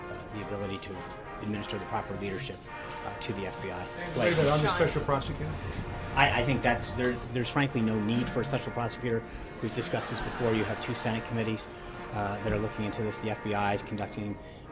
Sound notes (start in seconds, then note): 9.6 laugh track